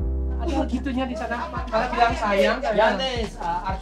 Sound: foreign talking

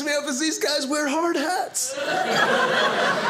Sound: audience laughing

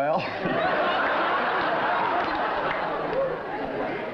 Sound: laughter

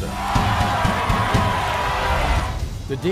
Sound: audience cheers

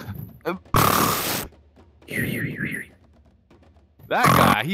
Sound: snoring very peacefully

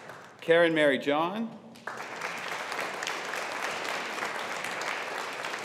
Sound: audience applauding

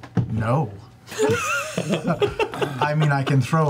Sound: all laugh

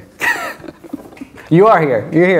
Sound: laughing

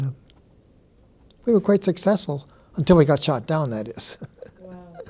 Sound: chuckles

